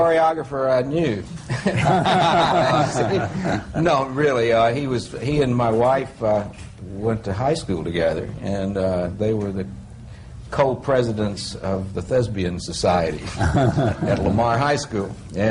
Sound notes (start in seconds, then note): 1.4 laughter